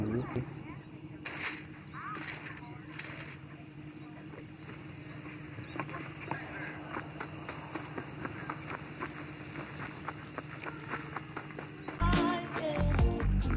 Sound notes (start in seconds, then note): 1.2 leaf sounds; 5.1 footsteps; 10.1 hungry zombies scream